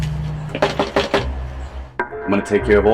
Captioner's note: fist knocking